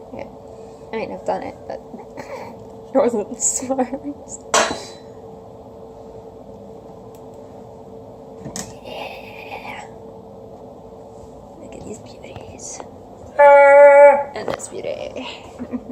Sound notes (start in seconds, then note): 2.0 laughs; 8.3 whispering; 13.3 cheers